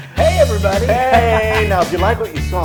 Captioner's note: laugh